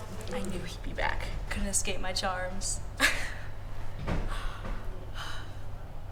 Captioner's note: laughs